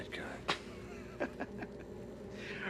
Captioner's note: chuckles